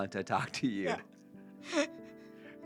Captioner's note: laughs